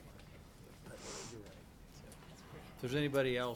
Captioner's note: attendees chattering